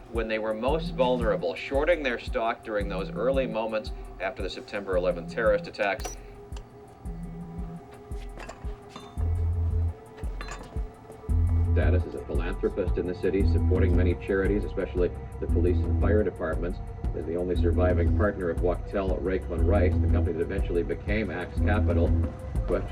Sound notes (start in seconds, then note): 6.3 television beeps; 9.7 tense music